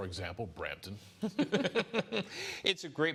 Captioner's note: laughter